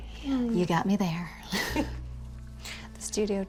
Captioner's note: both laugh